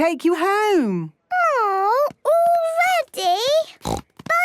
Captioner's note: snort